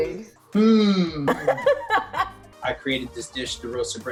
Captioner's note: laughs